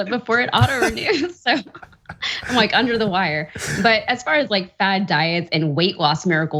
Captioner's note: laugh